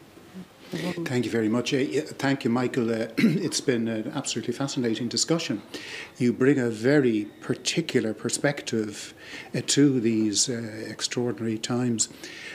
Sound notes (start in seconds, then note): 3.1 clears throat